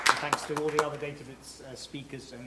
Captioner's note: applause